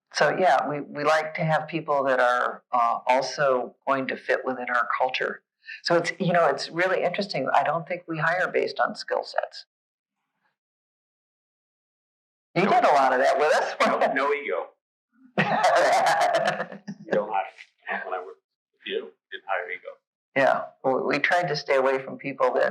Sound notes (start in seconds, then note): 15.4 laughing